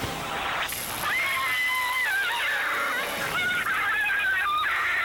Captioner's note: woman screaming